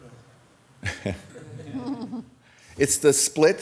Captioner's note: laughing